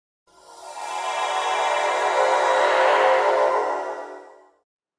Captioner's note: beaming sound effect